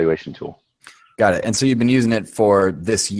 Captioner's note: voiceover